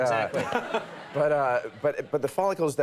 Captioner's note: laughing